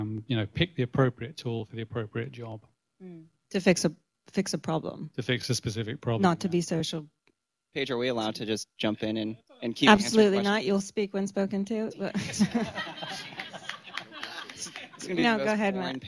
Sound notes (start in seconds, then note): 12.1 laughter; 12.1 laughs